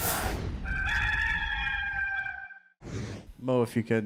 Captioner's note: rooster crowing